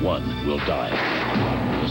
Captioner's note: gunshot